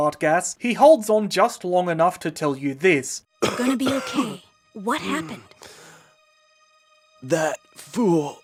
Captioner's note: coughing